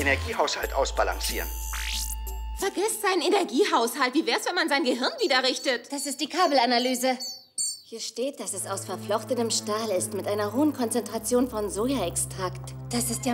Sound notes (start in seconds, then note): 6.4 button beeps